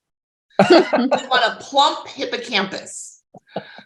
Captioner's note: laughing